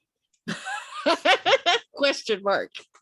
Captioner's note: laughs